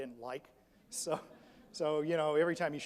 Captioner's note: audience laughs